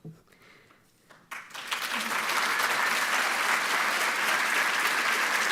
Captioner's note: audience applauding